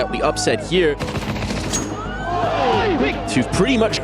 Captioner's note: crowd cheering